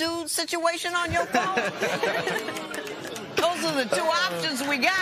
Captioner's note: laughter